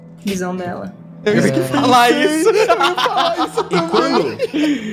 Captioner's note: laugh